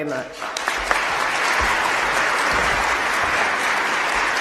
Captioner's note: applause